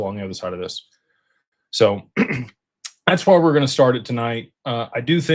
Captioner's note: clears throat